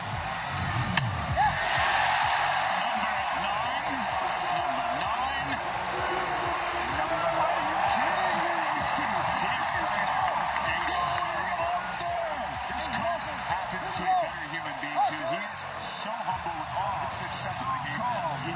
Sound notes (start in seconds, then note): 6.6 cheering